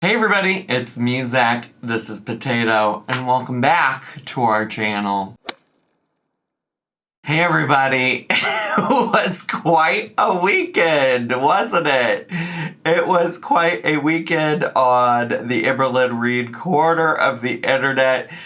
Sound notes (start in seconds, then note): 5.3 logo thuds; 8.5 laughs